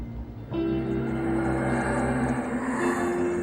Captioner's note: whooshing